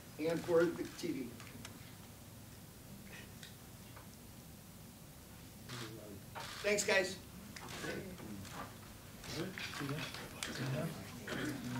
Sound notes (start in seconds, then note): 6.3 cameras shuttering; 8.8 press chattering